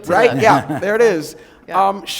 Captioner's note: laughter